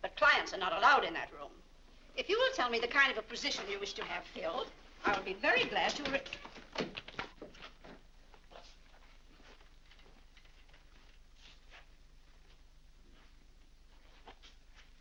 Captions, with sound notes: But clients are not allowed in that room. If you will tell me the kind of a position you wish to have filled, I'll be very glad to... (door opens)